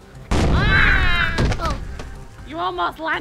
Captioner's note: explosing can be heard; Hilda and Goggins scream